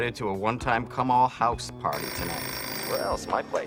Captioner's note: phone rings